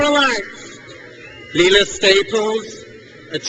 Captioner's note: crowd cheers